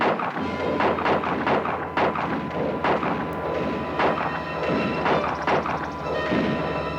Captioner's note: guns fire; ominous orchestral music